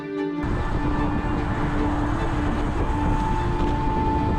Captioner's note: traffic rumbling